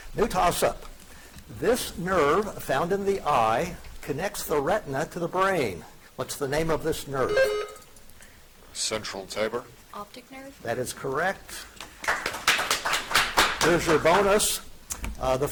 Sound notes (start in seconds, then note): 7.2 buzzer chiming; 11.8 audience applauding